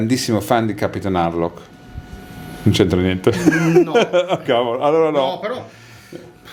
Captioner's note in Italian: risate